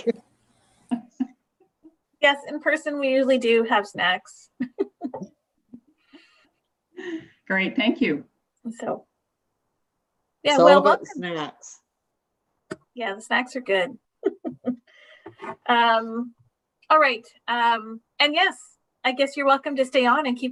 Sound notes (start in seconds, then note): 0.1 laughing; 4.5 laughing; 14.2 laughs